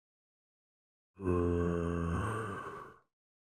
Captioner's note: zombie groans with understanding